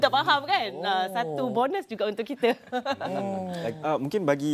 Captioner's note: laugh